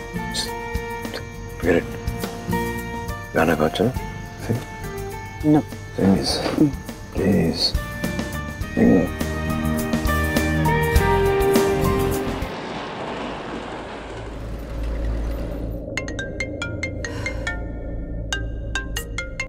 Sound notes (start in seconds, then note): 12.3 train moving; 15.9 phone ringing